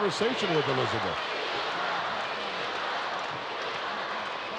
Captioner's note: crowd yelling